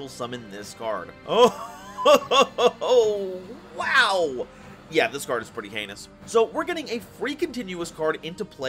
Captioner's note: chortling